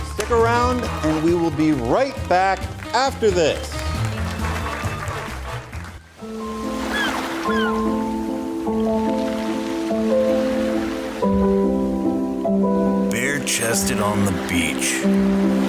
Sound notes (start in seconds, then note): 3.8 audience Applause; 6.3 beach sounds; 6.9 ♫ piano ♫♫